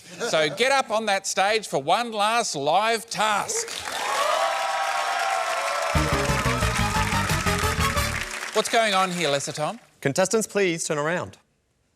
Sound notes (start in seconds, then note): 3.5 cheering, applause